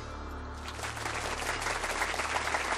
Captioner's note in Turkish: Alkış